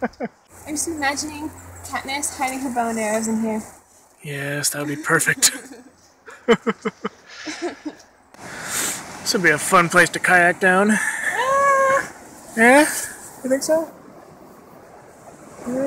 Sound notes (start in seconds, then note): 4.8 laughs